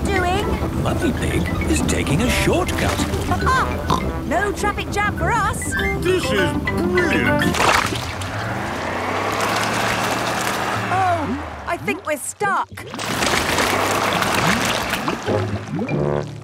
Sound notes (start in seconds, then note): 7.4 sloshing, tires whirring; 12.4 whirring